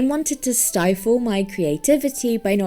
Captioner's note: none